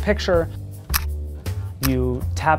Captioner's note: camera snapping